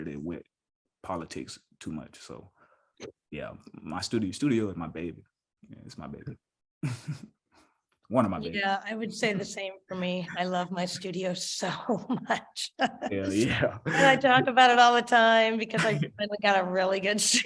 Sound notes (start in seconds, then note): 13.4 chuckle